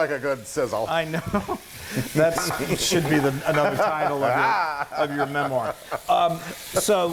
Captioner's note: laugh